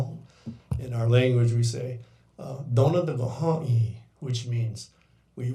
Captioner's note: speaking in foreign language